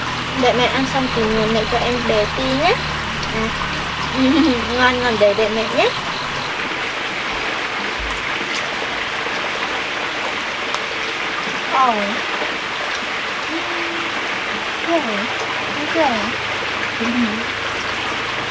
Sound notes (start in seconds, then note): 16.9 laughing